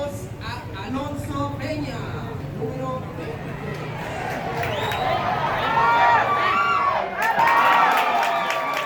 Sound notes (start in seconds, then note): 1.8 something in Spanish - announcement at a stadium; 4.3 people whistling and cheerleading